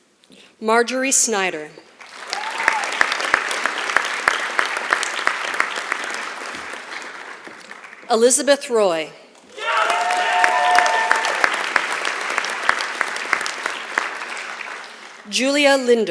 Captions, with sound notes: Marjorie Snider. [ Applause ] Elizabeth Roy. [ Applause ] Julia Linder.